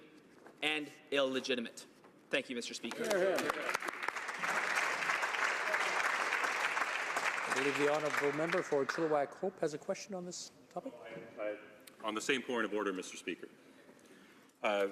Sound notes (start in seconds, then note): 6.5 some Applause